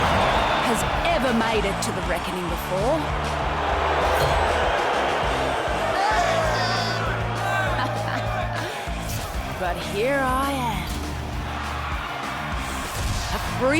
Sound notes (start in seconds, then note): 8.0 crowd jeering